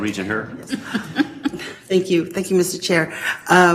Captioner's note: laugh